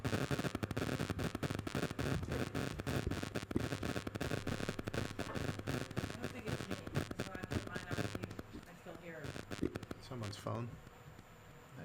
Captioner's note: static